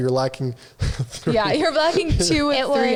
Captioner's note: laughs